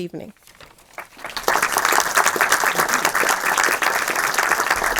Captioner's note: audience applauding